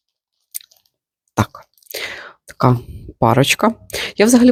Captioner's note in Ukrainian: сопіння